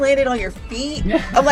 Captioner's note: laughs